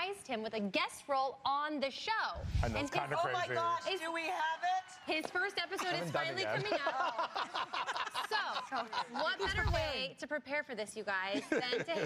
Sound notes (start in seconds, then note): 5.8 laughter